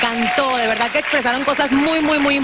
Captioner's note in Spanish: aplausos